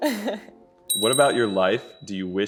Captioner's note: bell chimes